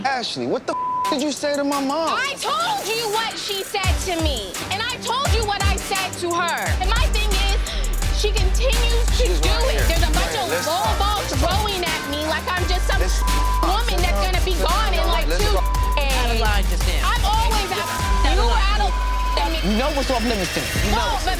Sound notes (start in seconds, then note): 0.7 beep; 13.5 beep; 17.0 people yelling at once; 18.0 beep